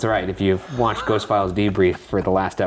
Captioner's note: chuckling